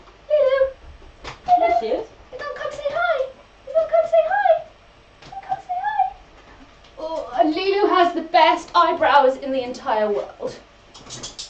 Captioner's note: higher pitch; higher pitch